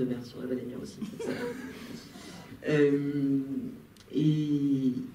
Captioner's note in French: rires